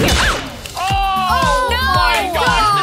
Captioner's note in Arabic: نيران البندقية; موسيقى ساطعة